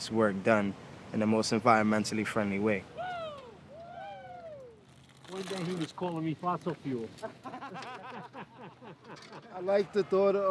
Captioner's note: laughter